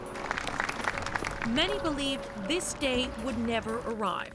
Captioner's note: applause